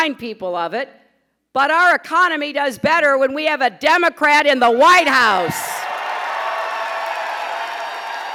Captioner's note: applause